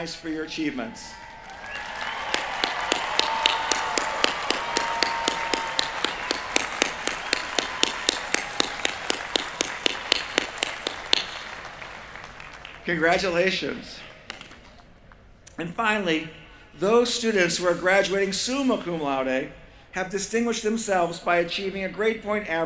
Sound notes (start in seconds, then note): 1.8 cheering